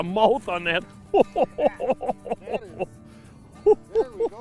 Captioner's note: laughter